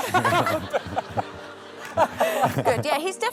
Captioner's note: laughter